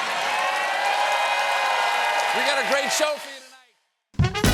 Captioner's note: cheers and applause